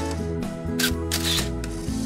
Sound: light music; camera snapping; light music

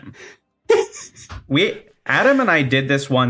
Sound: giggles

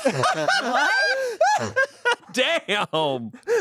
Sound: everyone laughs

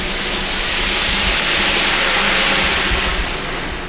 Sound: hissing

